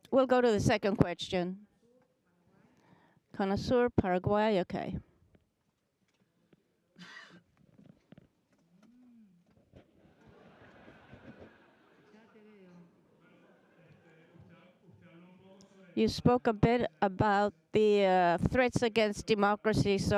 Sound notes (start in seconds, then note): 10.1 audience laughing